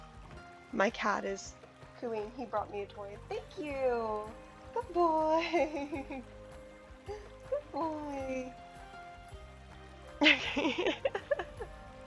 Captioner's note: laughs